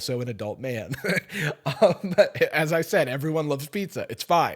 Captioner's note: laughs